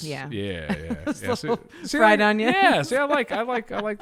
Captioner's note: laughs